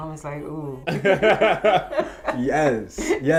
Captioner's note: laughs